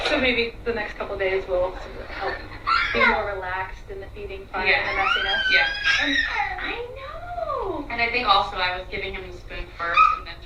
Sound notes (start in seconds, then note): 4.6 squeals